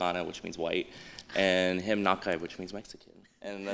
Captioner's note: non-english